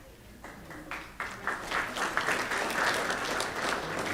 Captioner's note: applause